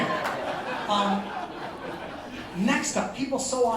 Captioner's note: laughter